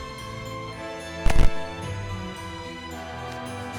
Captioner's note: snap!!